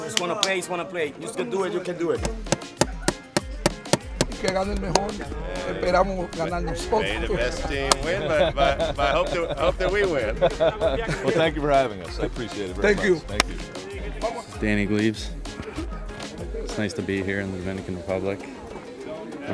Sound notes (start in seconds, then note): 2.2 tapping; 4.4 speaking Spanish